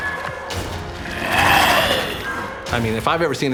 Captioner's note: lobster roaring